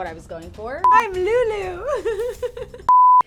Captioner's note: laughs; beep